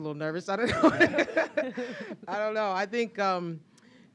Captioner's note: laughter